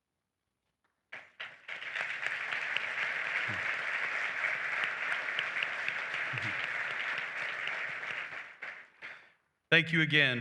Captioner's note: applause